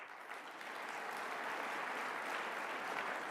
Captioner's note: applause